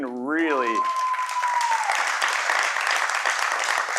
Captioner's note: cheering; applause